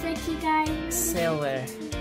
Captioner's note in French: none